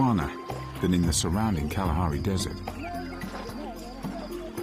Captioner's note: dramatic music; speaking in foreign language